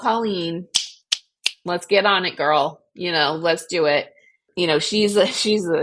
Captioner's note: snaps